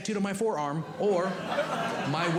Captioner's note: audience Laughing